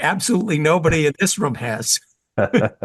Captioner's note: laugh